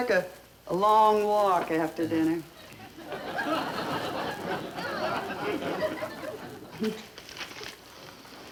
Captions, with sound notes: a long walk after dinner (audience laughter)